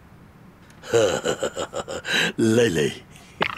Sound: giggles

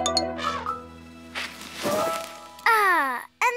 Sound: elephant trumpeting

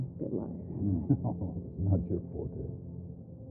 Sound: chuckling

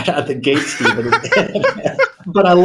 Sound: laughing

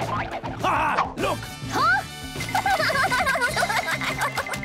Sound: Sandy giggling

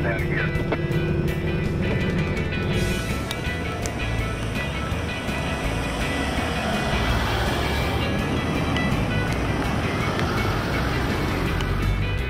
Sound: music background and vehicle sounds

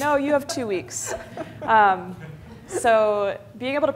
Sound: laughter

